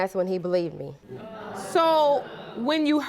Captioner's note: audience murmuring